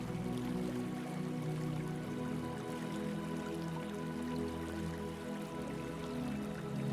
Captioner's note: water trickling